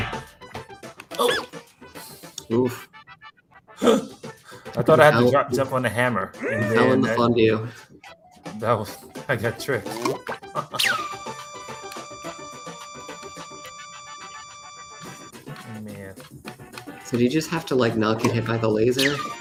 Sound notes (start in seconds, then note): 10.9 laser sound